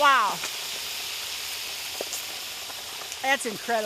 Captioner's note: oil Sizzling